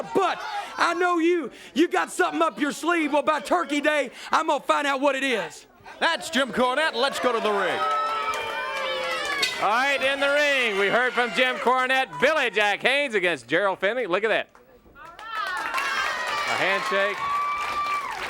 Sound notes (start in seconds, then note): 8.5 crowd chatter